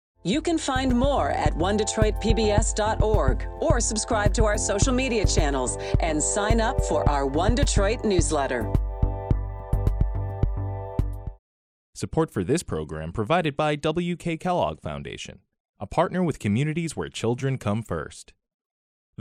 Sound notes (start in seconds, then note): 9.1 rejuvenating music; 12.0 voiceover